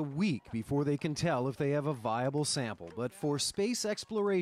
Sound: cheering

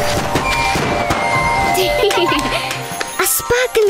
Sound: whirring and popping; laughter

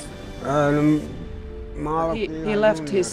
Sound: speaking in a foreign language

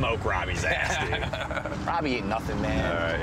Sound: laughs

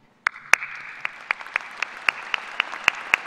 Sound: applause

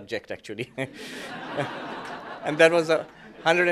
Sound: laughter

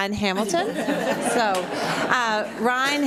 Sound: audience laughs

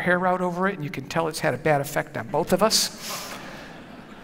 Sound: laughter

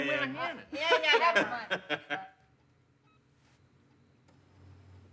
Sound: Phillip laughs

